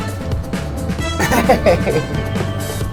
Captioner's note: laughing